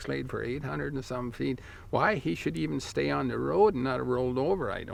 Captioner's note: none